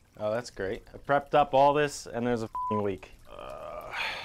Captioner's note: beep